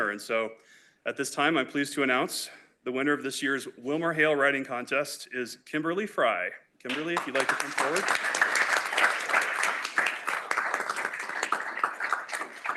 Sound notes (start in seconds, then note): 6.8 applause